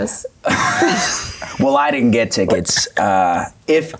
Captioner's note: laughs